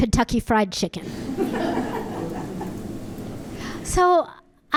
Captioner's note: audience laughing